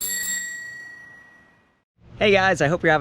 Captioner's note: bell ringing